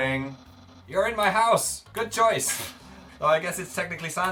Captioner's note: sniggers